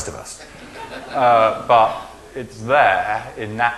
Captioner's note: laughing